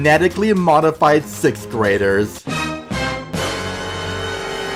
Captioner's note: dramatic sound effect